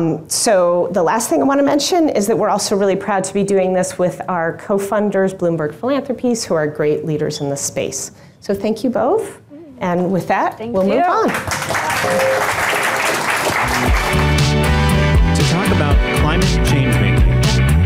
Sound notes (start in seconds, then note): 11.1 audience applauding